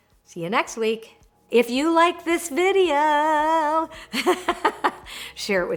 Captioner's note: laughs